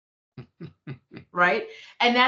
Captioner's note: chuckling